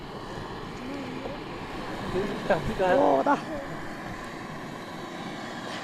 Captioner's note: speaking foreign language